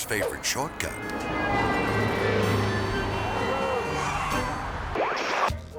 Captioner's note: traffic honking; whimsical music; transition whooping